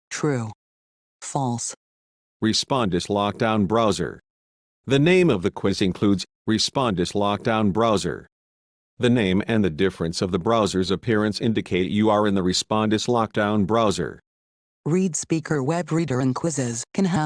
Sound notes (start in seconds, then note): 2.7 male Computer Voice; 15.1 female Computer Voice